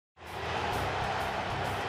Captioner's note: cheering; crowd chanting defense